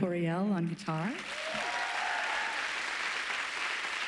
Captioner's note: applauding